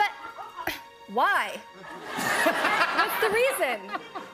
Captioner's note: normal voice